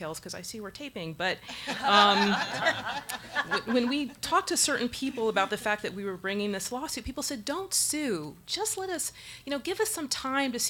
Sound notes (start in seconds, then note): 1.5 audience laughs